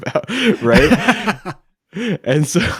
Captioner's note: laughing